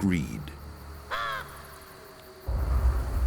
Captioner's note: caws